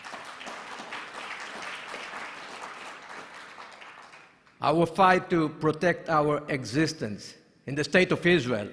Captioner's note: applause